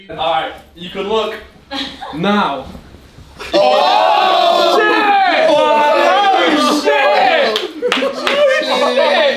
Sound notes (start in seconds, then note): 3.4 all exclaim